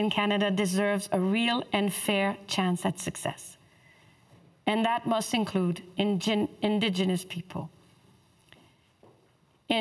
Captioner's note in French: voix de l'interprète